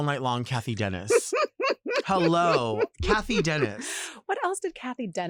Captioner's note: laughs